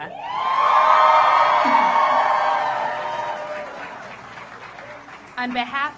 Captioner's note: applause